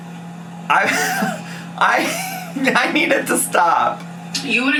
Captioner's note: laughs